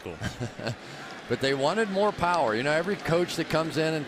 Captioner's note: laughs